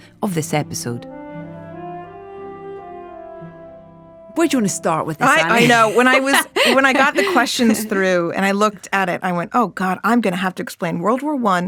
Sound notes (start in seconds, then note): 0.2 whimsical classical music; 5.2 laughing